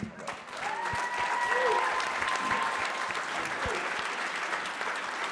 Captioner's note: audience clapping